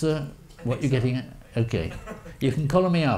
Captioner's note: audience member laughs